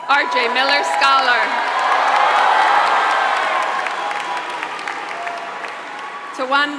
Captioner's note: applause